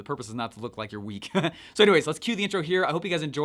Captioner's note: laughs